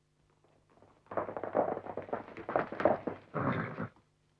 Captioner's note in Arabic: اصوات الخيول; صهيل الحصان